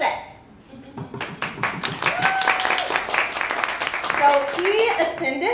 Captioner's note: audience cheers and applauds